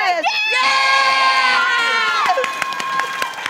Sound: applause

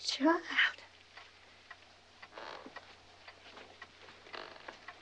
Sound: clock ticking

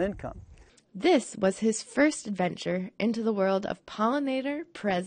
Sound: voiceover

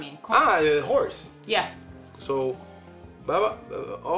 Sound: mutters

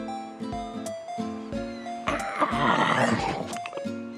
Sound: yawns

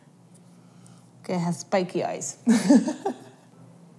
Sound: laughs

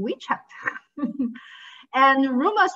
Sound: chuckles

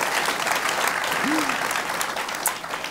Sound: applause

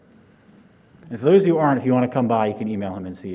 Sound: muffled under mask

